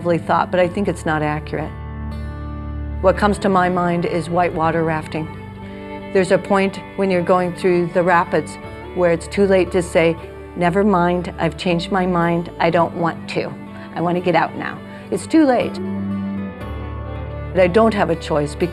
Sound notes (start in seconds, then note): none